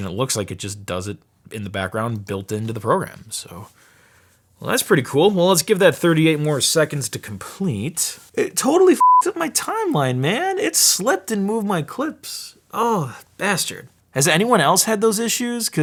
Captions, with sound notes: It looks like it just does it in the background, built into the program. So that's pretty cool. Well let's give that 38 more seconds to complete. It totally (beep) up my timeline man. It slipped and moved my clips. Oh bastard, has anyone else had those issues,